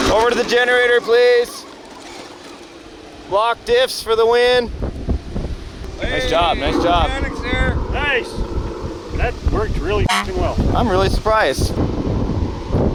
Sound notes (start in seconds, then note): 10.1 beep